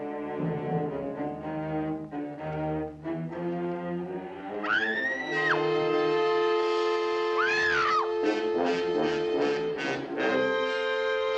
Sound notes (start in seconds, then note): 4.6 screams; 5.9 suspenseful music